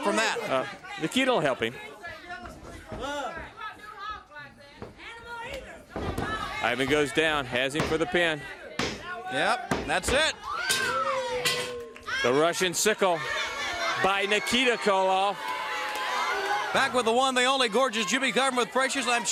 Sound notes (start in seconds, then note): 3.8 crowd chatter; 12.3 bell ringing